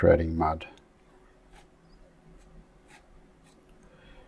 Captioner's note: silence